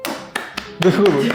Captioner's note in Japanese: 拍手